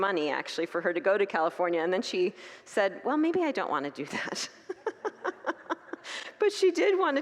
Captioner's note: congregants laugh